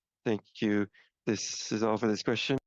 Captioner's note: speaking French